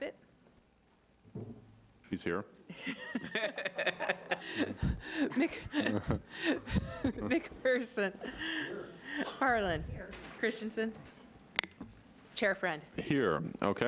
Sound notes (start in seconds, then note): 2.8 laughing